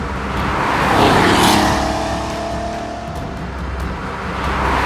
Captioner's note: engine revving